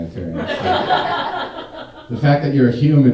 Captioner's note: audience laughing